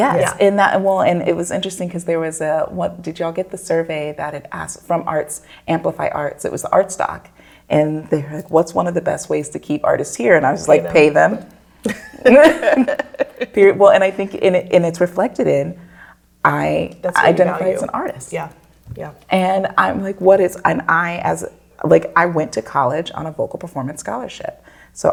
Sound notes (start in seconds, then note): 12.2 all laugh